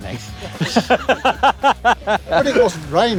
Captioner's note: laughs heartily